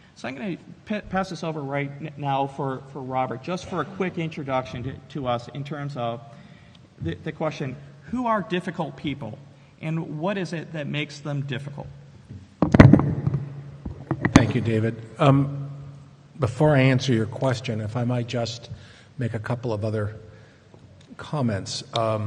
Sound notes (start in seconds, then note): 12.2 microphone pops